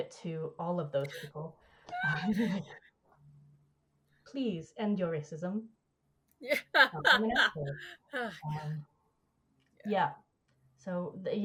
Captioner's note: laughs